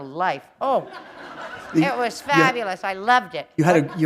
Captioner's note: laughter